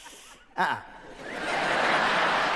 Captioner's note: puffing noise